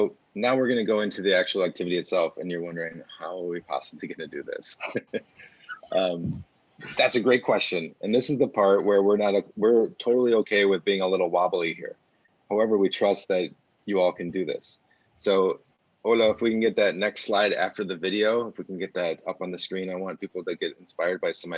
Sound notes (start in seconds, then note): 4.7 laughs